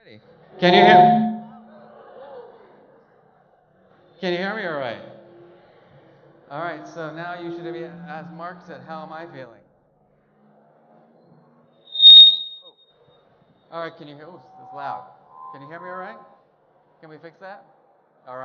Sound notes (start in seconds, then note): 0.6 microphone feedback squeaks; 1.6 audience gasps; 11.9 microphone feedback squeaks; 15.2 microphone feedback squeaks